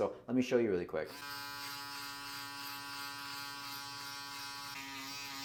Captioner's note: shaver buzzes